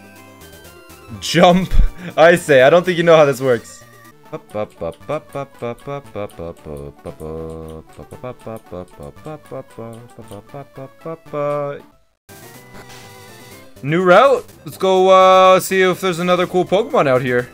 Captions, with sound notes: "Jump" Icay, I don't think you know how this works [hums] New route! Let's go see if there's another cool Pokemon out here